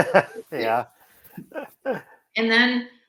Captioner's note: laughs